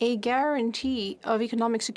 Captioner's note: speaking French